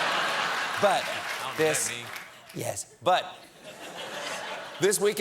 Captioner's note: applause; laughter